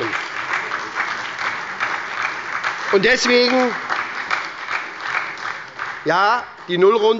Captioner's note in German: Beifall bei der SPD